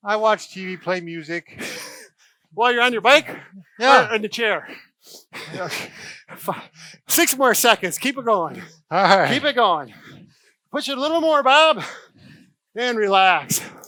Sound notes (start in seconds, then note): 5.3 laughing